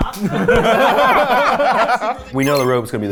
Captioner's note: people laughing; text pinging